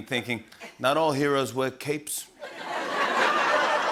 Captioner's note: Italian accent; laughter